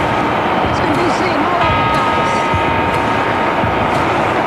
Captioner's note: Seventh bell in Madrid, Spain